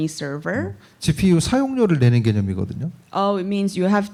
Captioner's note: speaking korean